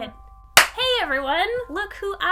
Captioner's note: clapping